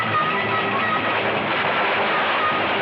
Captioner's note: gunshots